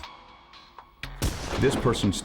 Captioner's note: gunshot